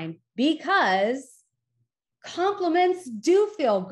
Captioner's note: none